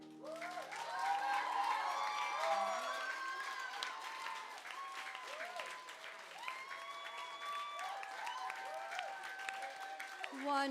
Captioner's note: applause